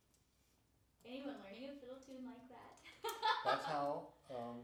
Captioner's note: laughing